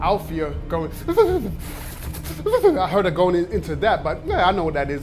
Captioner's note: imitates shivering